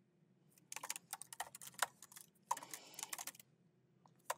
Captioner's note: keyboard clacking